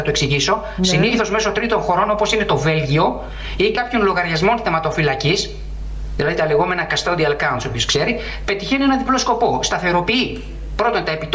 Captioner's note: angry tone